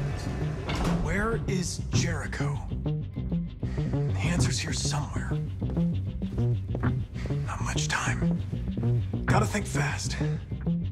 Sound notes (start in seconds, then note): 0.0 synth, investigatory; 4.1 sigh